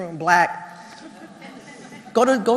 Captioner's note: laugh